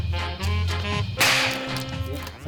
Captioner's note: snap!